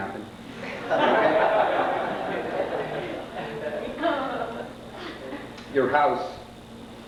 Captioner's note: laughter